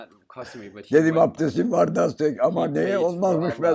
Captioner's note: foreign language